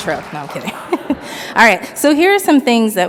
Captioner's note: audience laughs